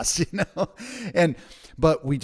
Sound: laughs

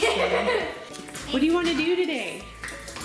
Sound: laughing

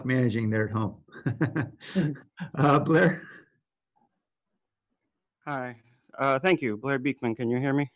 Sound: laughter

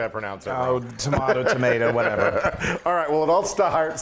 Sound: laugh

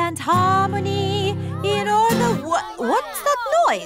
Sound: commotion

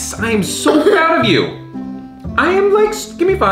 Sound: coughs

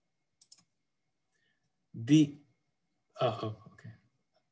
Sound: clicking

